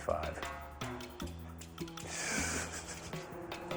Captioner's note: chuckles